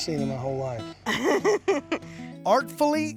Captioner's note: laughter